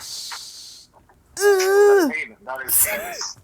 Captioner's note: groaning